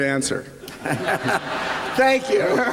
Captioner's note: laughter